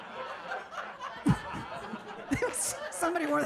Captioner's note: audience laughing; laughing